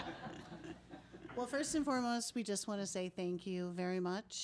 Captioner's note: laughing